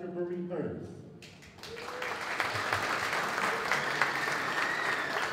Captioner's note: applause